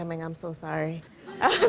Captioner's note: laughter